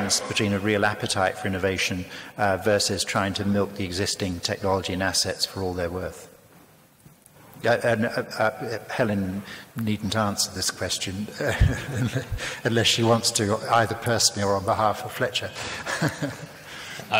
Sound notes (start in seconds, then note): 11.4 laughs; 15.6 laughs